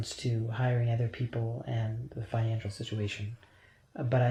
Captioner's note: none